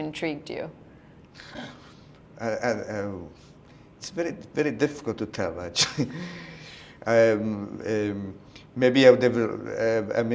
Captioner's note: chuckle